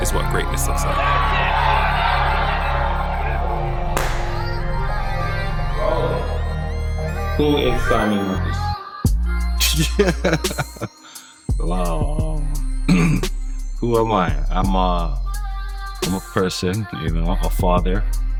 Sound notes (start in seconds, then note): 3.9 claps hands; 9.6 laughs; 12.8 clears throat